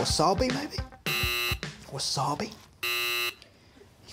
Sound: buzzer dings; buzzer dings

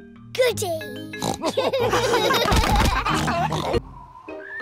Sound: oinks; all laugh

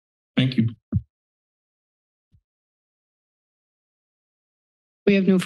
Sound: silence

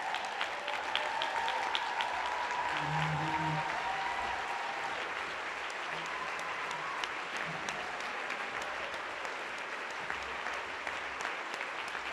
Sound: applause

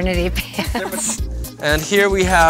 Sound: laugh

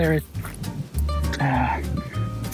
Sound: sighs

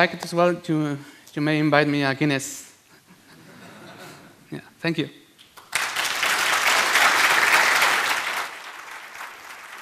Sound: applause

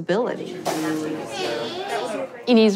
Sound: indistinct chatter

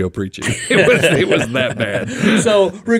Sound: group laughing

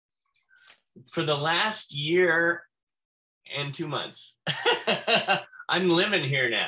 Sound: laughs

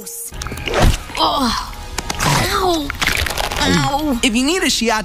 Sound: groaning in pain

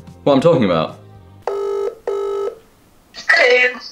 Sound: ring ring

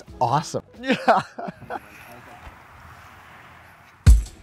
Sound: laughing

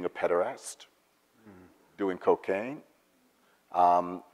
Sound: none

